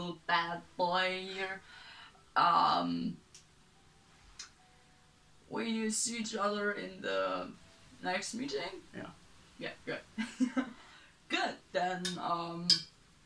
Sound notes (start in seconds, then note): 10.2 chuckles